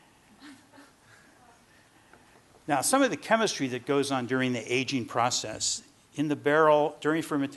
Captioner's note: laughter